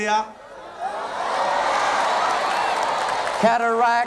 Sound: crowd cheering boisterously

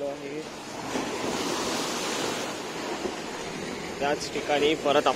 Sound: sea Waves sound

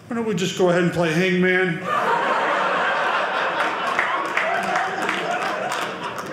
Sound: audience laughing

